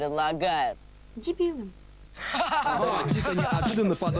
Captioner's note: laughter